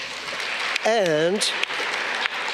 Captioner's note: audience clapping